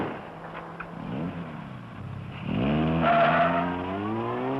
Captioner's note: engine roaring; tires screeching